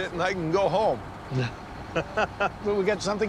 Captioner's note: laughter